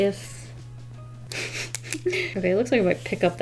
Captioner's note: giggles